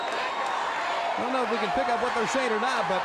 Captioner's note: crowd cheering